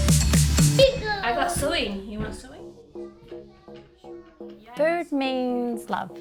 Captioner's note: children chatter